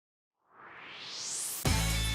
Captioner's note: swoosh